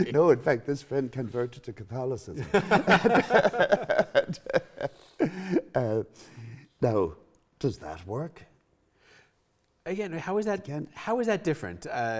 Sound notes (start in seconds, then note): 2.4 continued laughing